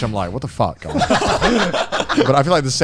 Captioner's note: all laughing